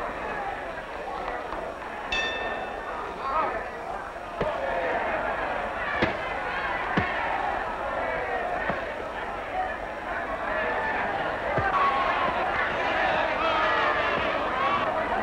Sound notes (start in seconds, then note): 2.1 bell ringing; 7.5 cheering